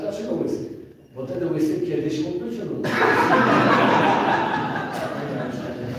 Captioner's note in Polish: Śmiech z sali